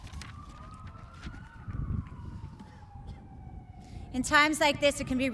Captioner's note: distant sirens wailing